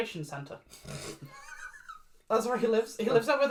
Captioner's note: laughs